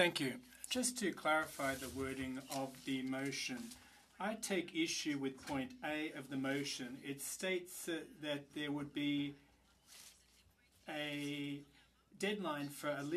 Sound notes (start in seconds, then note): 4.4 speaking French